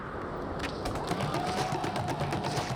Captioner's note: cheering